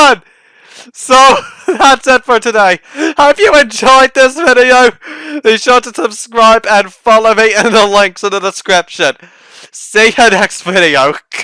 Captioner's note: laughing like a lunatic